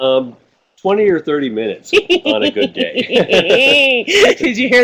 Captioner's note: laughter